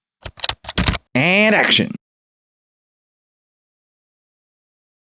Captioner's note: typing